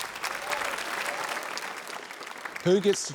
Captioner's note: applause